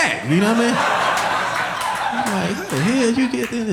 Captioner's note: audience laughing